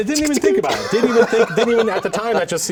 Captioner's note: laughing